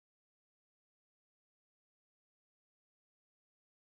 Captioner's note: none